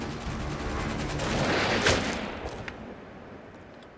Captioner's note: rifle fires